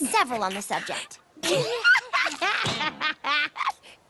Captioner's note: laughing